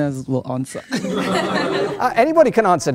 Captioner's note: laughter